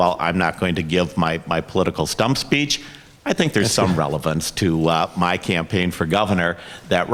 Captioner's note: Emmer laughs